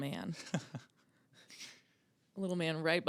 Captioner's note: laughing